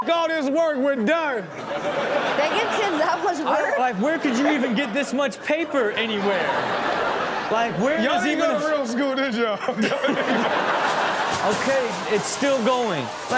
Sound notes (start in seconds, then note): 6.6 audience laughing; 9.9 all laughing